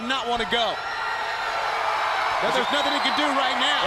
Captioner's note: crowd cheering